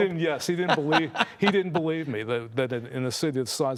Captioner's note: laughing